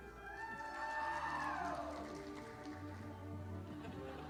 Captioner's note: audience applauding